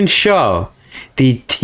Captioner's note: inhales Oxygen